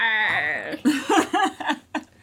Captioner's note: laughter